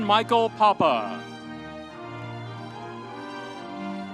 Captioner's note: audience cheering; bright music continues